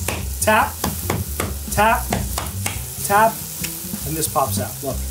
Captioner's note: knife bangs